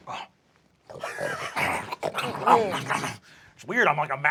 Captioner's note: snarling and growling